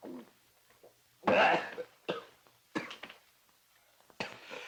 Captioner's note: Hodges coughs